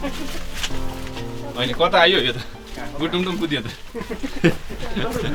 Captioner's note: laughter